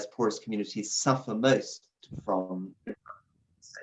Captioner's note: audio glitches